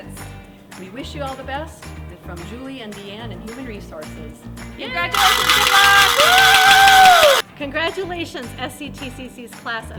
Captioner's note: cheering